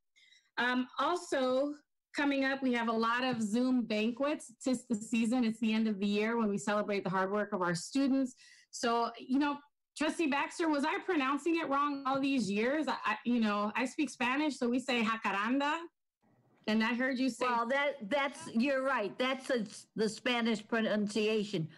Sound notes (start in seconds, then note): 15.2 speaking in foreign language